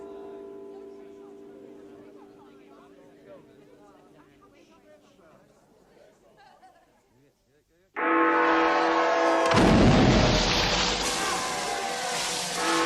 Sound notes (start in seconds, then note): 7.8 party goers cheer; 8.0 Big Ben bells strike midnight; 9.4 explosion